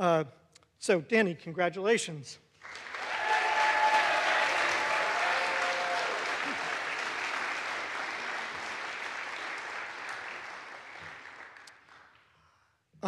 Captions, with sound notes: So Danny, congratulations. (audience applauds) (audience cheers)